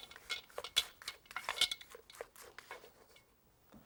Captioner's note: spatula scraping